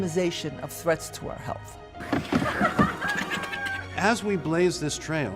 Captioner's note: mother and baby laughing